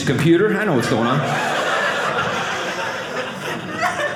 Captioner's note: audience laughing